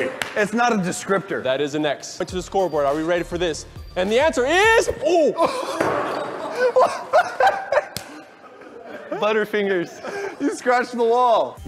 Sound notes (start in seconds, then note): 5.3 everyone laughs as is embarassed by it